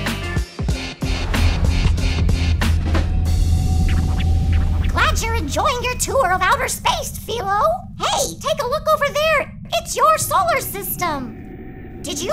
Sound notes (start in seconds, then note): 3.1 ship whirring